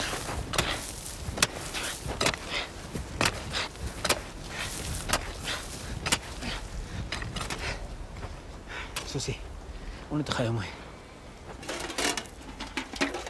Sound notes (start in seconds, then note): 5.2 panting